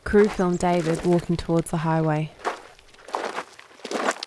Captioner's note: footsteps crunching